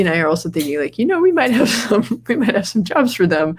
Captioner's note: laughs